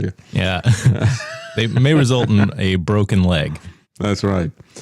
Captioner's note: laughs